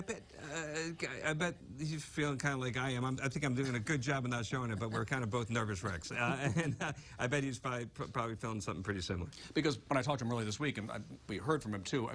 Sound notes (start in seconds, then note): 3.1 laughter